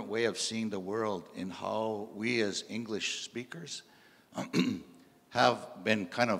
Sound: clears throat

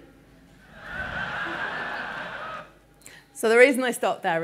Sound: audience laughing

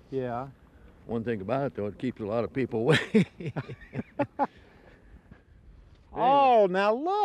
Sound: laughter

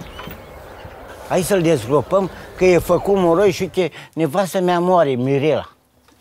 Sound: speaking in foreign language

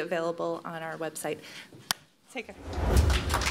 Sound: applause

